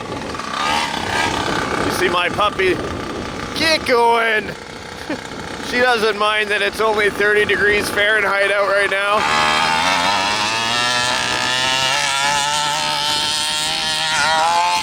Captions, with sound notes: You see my puppy, keep going! She does'nt mind that its only 30 degrees Fahrenheit out right now. (motor revving)